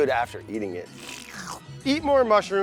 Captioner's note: slurping